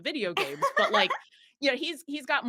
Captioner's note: laughs